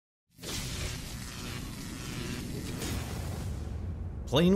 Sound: electricity crackling

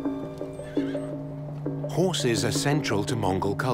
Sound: horse whinnies

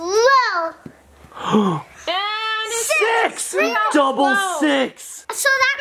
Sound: gasps

